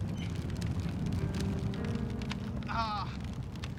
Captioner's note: grunting